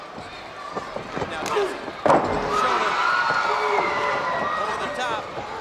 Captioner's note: body thudding